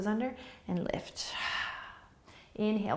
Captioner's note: exhaling